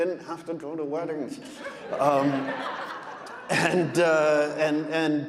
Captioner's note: audience laughing